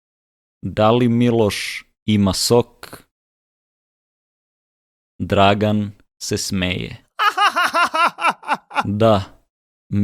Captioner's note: laughter